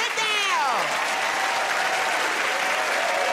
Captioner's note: cheers and applause